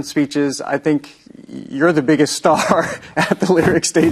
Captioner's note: chuckling